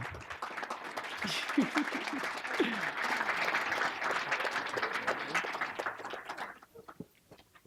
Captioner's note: applause